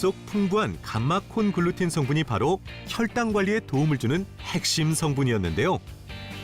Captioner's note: voiceover